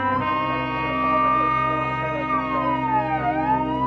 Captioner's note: siren blaring